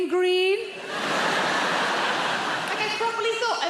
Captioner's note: audience laughing